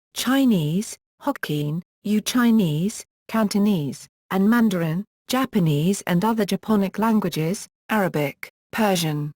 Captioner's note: Cantonese